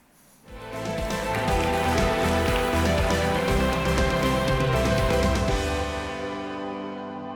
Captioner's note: applause; upbeat music